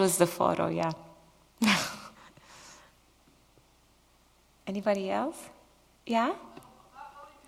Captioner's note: laughs